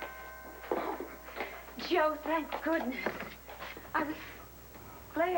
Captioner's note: doorbell rings